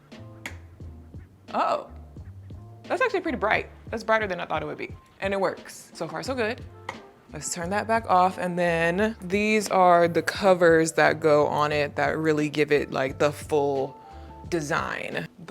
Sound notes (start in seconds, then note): 0.4 switch clicks; 6.7 switch clicks